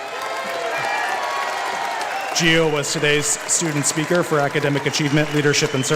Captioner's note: applause